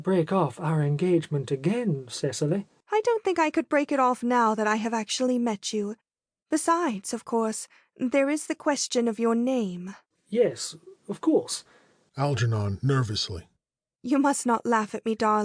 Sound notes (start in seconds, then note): 12.0 nervously